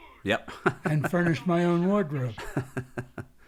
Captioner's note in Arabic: يضحك